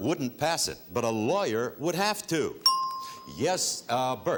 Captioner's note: ting